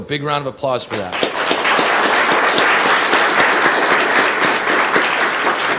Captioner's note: audience applauding